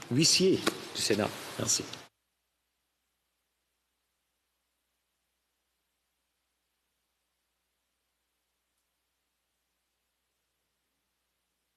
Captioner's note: speaking French